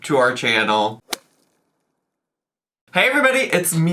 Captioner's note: logo thuds